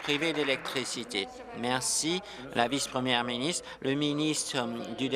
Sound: applause

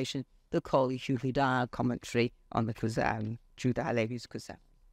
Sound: speaks foreign language

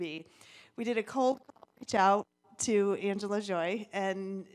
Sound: audio distorts

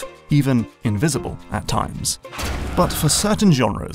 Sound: impact

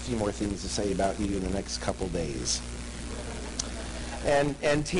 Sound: laughter

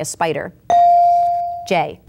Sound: bell dinging

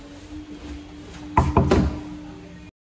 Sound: knocking

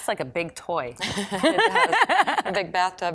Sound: laughing

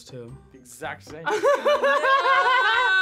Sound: both laugh

